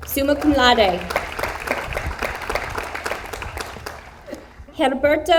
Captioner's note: audience applauds